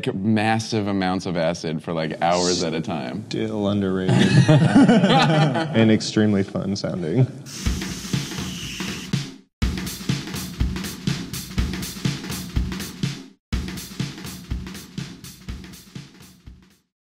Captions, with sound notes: massive amounts of acid for hours at a time. - Still underrated. (laughs) And extremely fun sounding. (upbeat percussion music)